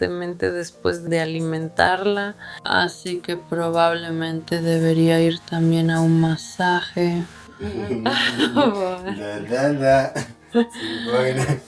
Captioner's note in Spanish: risas